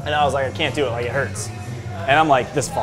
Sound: none

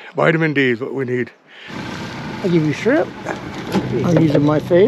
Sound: boat engine idling

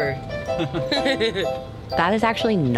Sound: laughing

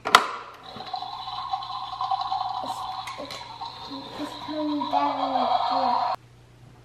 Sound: imitation bubbling

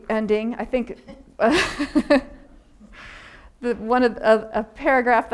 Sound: audience member laughing; laughing

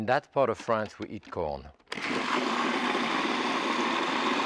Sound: food processor whirring

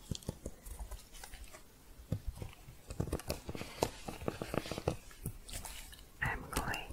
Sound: shuffling and typing

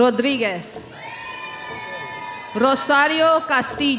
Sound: audience cheering

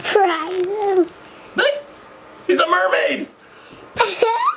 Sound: screeches; laughs

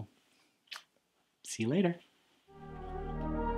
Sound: smooch; closing theme music

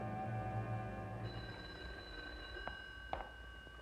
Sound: phone ringing

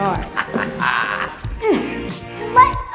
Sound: laughs, grunts

